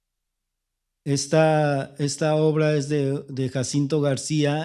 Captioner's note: speaking spanish